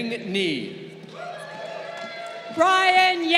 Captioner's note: crowd cheering